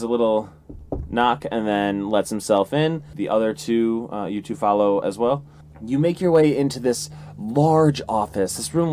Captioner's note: knock knock